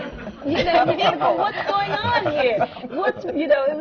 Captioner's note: laughter